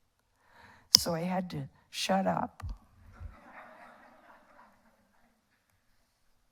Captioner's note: audience laughs